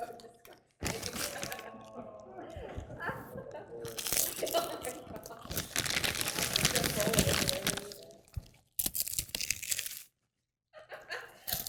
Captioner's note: food Crunching